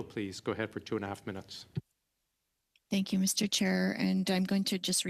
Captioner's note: speaking French